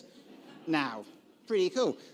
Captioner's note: audience laughing